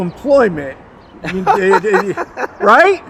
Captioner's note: laughs